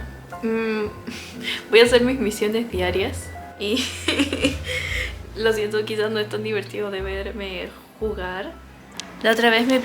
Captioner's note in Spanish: risas